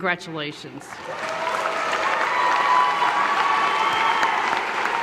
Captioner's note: audience applause